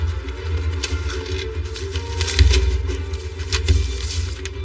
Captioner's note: paperers rustlingng; drawer opens